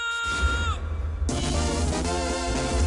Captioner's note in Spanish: Grito